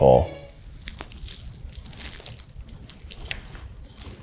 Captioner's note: sugar crackling